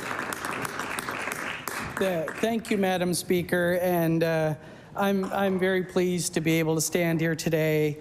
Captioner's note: applause